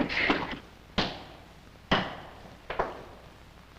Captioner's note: thumping